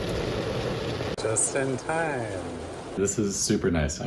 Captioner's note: so much rain sound